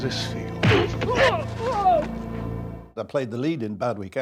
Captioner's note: punch thuds